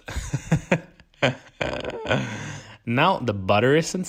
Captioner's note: laughs